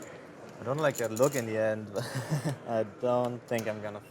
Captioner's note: laughs